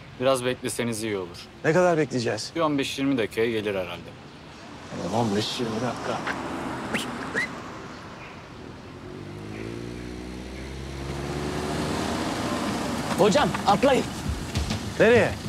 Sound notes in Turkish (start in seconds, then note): 6.9 Islık çalıyor